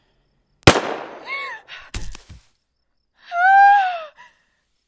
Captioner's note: gunshot popping; Mabel wails